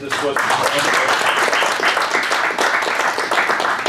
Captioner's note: clapping